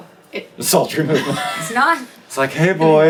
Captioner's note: laughs